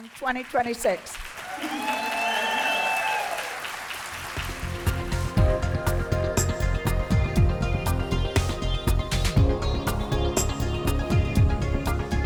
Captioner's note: applause